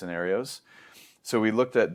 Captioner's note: inhales